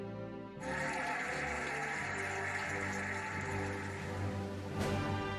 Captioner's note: cheering and applauding